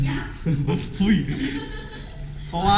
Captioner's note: laughter